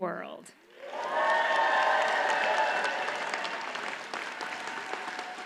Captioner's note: audience cheers and applauds